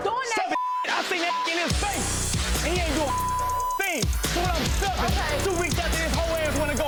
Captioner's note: beeps